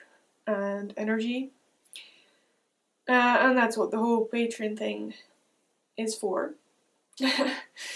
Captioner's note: chuckles